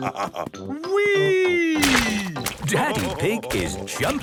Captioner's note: splashes